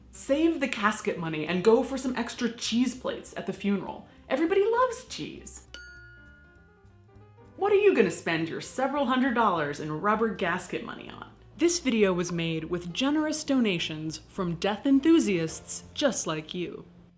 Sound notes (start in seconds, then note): 5.7 dinging